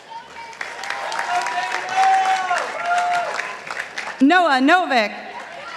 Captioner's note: participants applauding